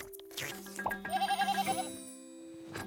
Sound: bleating

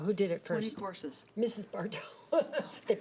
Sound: laughs

